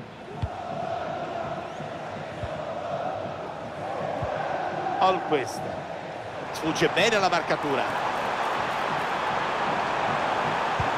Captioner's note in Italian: Applauso